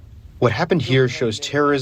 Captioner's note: through translator